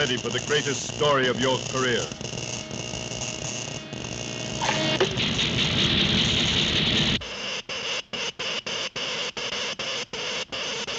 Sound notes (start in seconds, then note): 5.3 static rustling; 7.3 electricity zaps